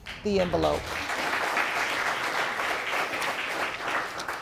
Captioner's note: audience applauding